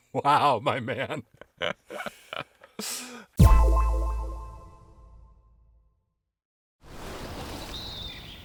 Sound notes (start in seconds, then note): 1.6 sharp tone echoing